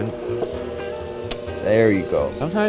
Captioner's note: mixer running